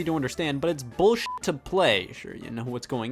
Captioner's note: beep